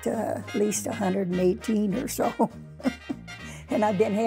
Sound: chuckling

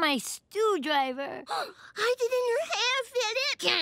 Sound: gasping

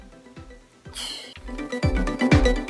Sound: sighs

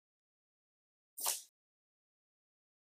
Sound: cutting wire

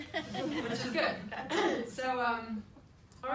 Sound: people laugh

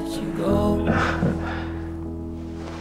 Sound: awkward laugh

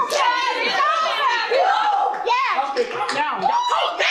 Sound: crowd rejoices

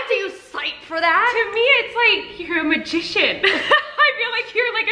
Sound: laughs

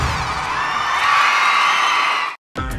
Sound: crowd cheering

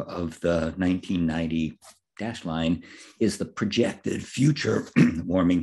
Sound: cough

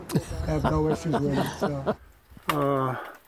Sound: laughter

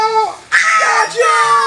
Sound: assistant screams

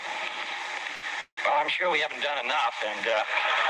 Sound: laughter

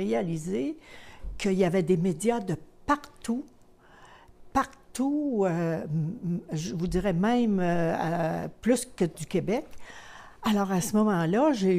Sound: speaking french

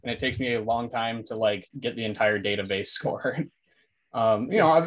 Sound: chuckles

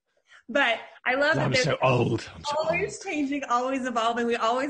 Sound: faintly speaking

